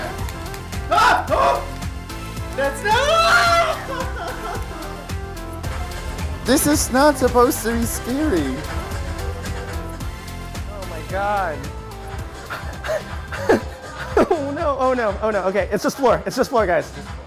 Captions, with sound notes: [Screaming] This is not supposed to be scary. Oh no, oh no—okay it’s just floor, it’s just floor, guys.